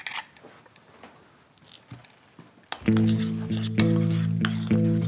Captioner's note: clip chinking; spoon scrapping; gentle guitar beat